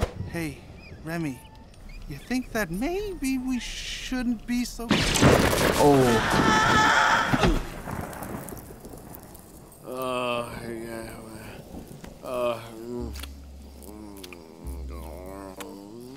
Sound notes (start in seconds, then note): 4.9 lightning zaps; 5.7 rats screaming; 9.8 Remy grumbling and groaning